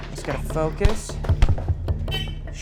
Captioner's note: thud; hooter buzzing